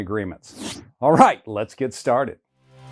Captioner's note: graphics whooshing